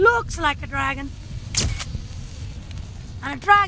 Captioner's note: camera clicks